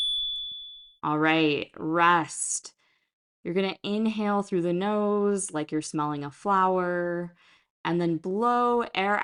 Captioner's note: chime